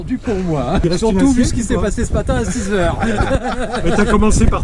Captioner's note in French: rires